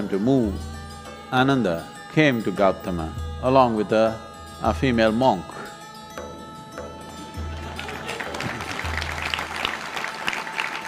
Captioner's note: laughter/Applause